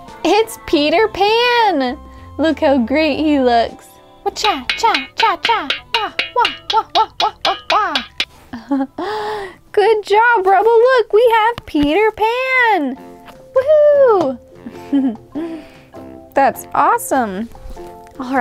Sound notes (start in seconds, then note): 4.4 fighting noises; 8.7 giggles